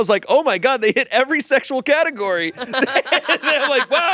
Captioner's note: laughs